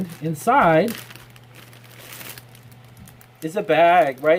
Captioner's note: crinkling paper